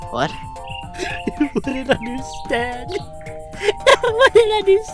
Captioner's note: sobbing